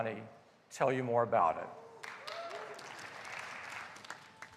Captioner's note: applause